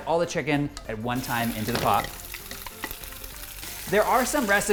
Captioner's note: chicken sizzling